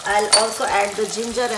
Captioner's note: dishes clinking